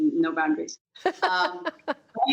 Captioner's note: laughter